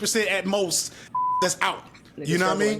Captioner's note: beep